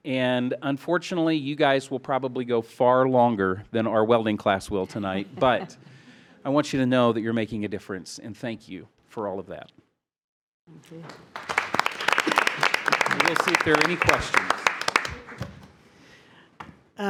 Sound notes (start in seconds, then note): 11.0 trustees applaud